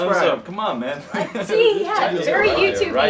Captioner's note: laughs